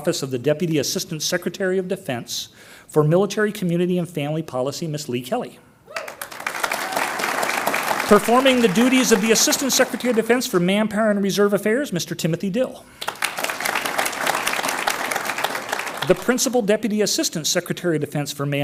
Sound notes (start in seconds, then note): 5.9 audience applauds; 13.0 audience applauds